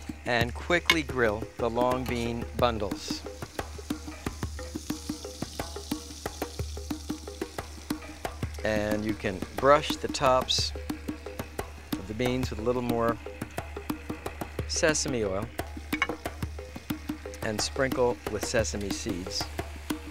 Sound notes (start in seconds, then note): 3.8 grill sizzling; 3.8 percussive music; 15.5 percussive music